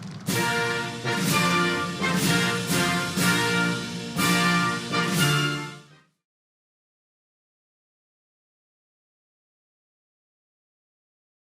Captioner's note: applause